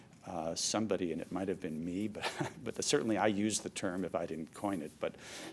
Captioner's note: laughs